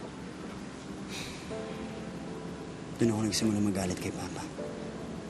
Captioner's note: sighs